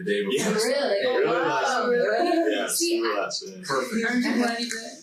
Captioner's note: group chattering